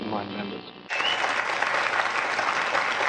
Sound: applause

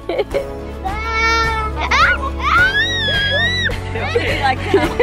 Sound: giggles; screams

